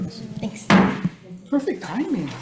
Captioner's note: gavel banging